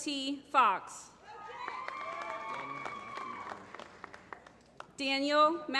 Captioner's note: applause